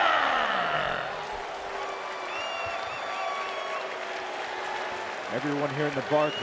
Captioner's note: applause